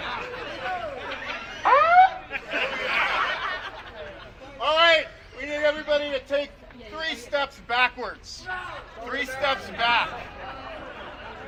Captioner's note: airhorn; shouting